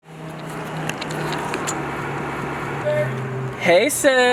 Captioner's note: cars passing